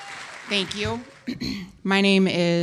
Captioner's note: audience cheering; clearing throat